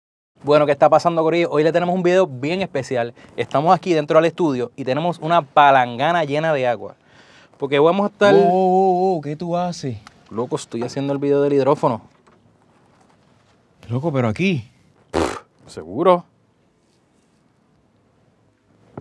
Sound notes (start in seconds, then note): 14.9 scoffs